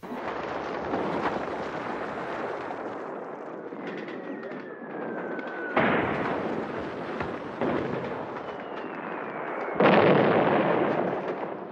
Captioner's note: sound of artillery